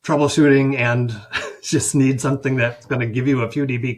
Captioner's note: chuckles